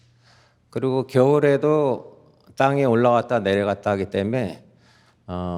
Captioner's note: continues speaking in Korean